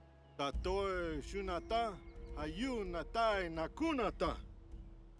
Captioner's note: speaking in foreign language